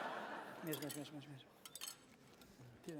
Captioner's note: non-english speech